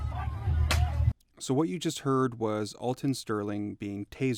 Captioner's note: pop